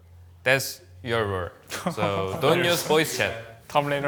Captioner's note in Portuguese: risos